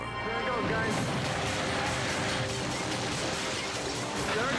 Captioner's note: intense music; house collapses